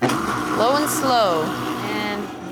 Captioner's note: blender whirring